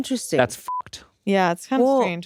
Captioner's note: beep